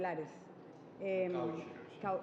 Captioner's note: speaking Alternate Language